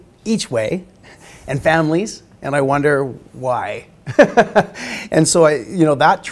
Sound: laughing

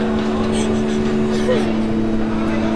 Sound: emma sobs

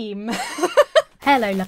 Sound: chuckling

